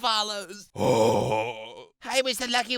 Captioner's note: sigh